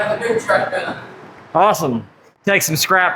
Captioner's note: trademarked sarcasm